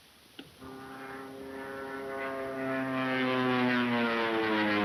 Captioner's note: biplanes buzzing